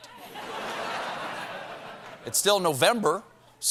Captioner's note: laughter